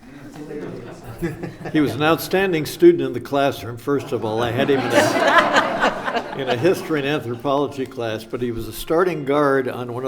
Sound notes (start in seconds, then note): 0.2 audience laughs; 5.4 audience laughs